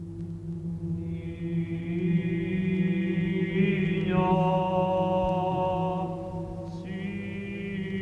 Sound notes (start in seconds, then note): 1.5 chanting